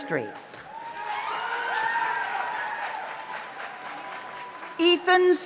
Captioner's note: audience applauds; audience cheers